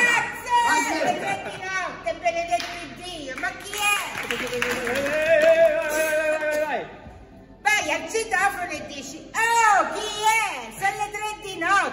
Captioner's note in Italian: Applauso